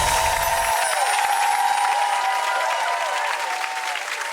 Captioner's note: swoosh and chimes; applause